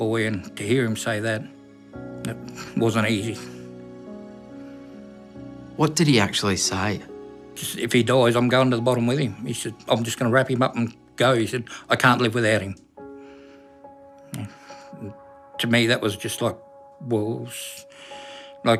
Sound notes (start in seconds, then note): none